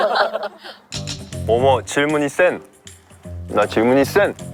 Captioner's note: continuing the botched dialect